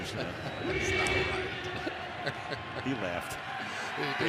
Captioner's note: laughs